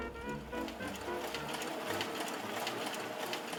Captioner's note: film reel rolling